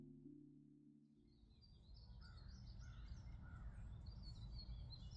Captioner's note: birds chirping